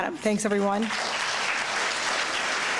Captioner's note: applause